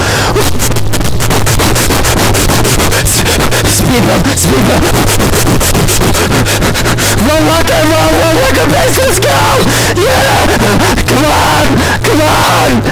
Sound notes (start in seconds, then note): 0.1 speedruns breathing; 4.6 pants rapidly; 9.6 inhales sharply